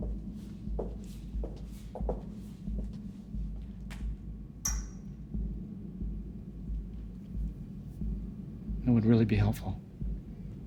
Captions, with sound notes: (footsteps approaching) It would really be helpful.